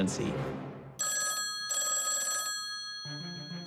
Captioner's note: telephone rings